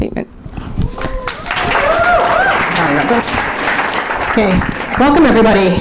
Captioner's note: audience applauding